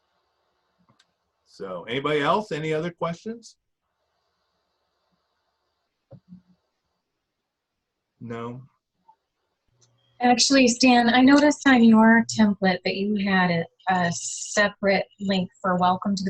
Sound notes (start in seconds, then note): 8.1 silent